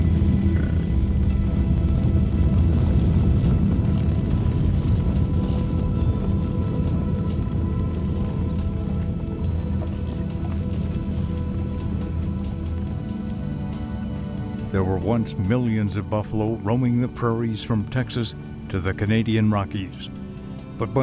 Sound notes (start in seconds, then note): 0.0 hoof beats, bison vocalizations, music; 0.6 hoof beats, music